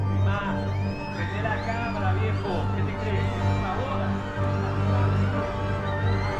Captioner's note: speaking in a foreign language in video